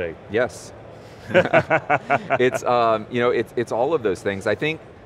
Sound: panel laughing

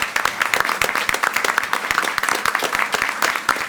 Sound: all applaud

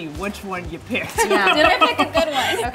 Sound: laughs

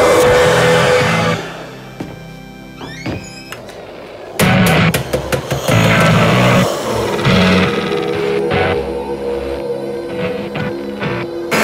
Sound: ghostly whispers and smoke

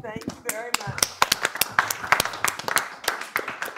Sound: applause

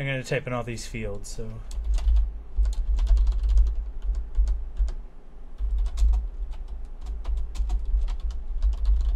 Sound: keystroke sounds and clicking

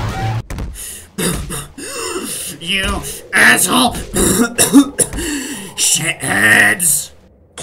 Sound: coughing

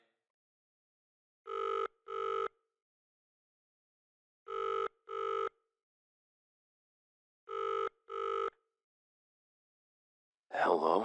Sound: SFX: phone ringing

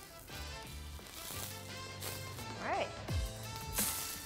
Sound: pan sizzles

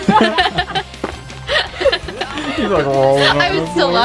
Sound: laughing

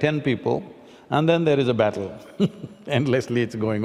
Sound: laughs

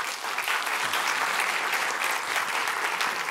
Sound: applause

